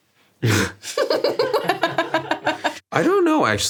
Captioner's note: both laugh